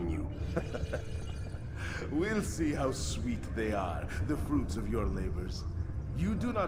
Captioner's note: laughs